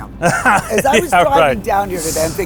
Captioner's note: laughs